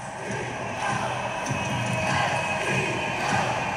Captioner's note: crowd chanting